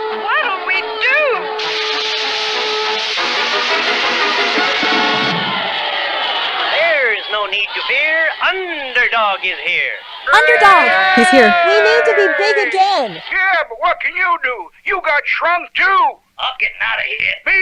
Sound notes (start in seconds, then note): 10.2 everyone Cheers